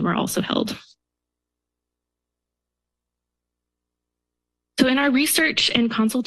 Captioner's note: silence